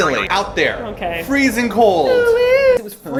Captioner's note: twanging sound